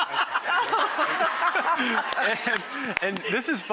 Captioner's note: laughter